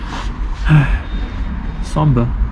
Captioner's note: sighs